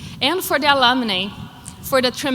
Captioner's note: none